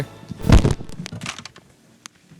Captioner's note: thud